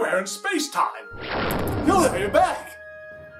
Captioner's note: booming SFX